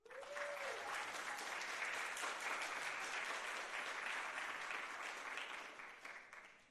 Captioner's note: audience applauding; audience cheering